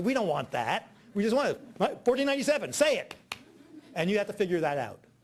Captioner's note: clapping